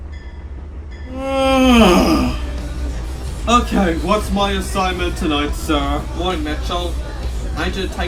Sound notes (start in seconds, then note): 1.1 yawns